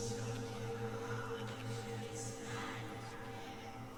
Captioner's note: eerie whispering